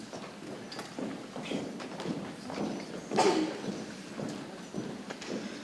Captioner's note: people chattering softly